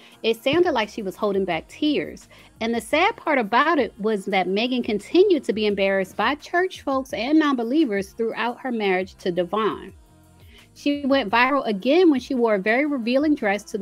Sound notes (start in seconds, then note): none